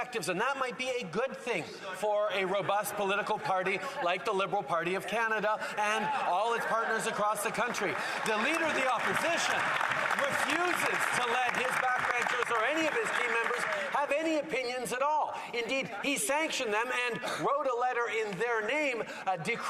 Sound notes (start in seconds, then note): 11.9 some Applause